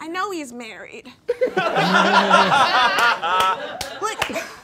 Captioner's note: all laughing